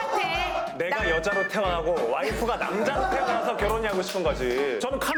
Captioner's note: hurriedly talking nonsense